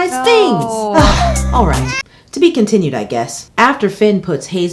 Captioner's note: sighs